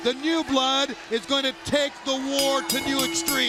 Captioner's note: bell ringing